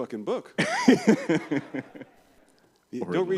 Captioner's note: laughter